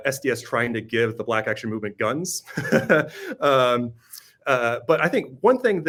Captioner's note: laughs